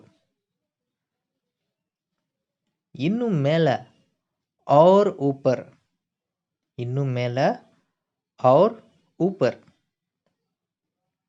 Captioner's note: Hindi